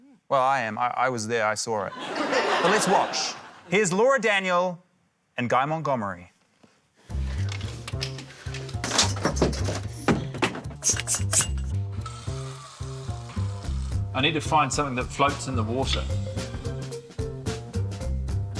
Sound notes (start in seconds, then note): 1.9 laughter; 9.0 objects clatter; 11.9 air hisses